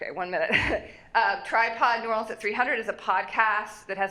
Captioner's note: laughs